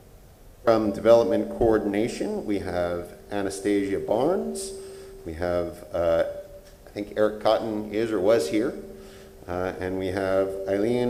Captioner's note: off microphone